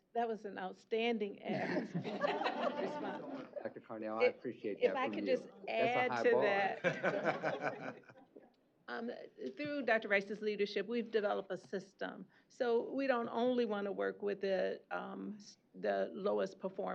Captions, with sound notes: was an outstanding response. - Dr. Carnell, I appreciate that-- - If I could just add to that-- [laughter] Through Dr. Rice's leadership, we've developed a system. So we don't only want to work with the lowest performing